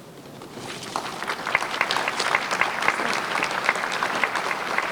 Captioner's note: crowd applauds